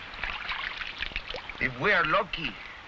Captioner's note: water splashing